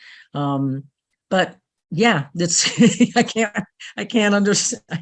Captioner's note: laughs